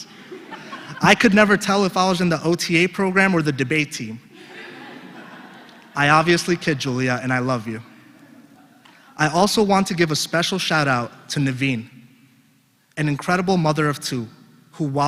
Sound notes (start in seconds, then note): 0.2 laugh; 5.0 laugh